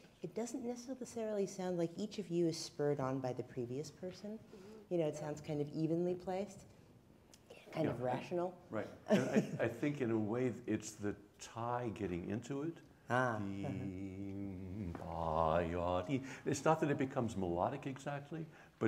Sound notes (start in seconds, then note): 13.5 humming